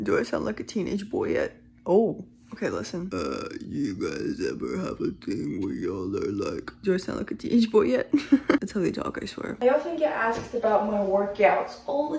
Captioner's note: laughs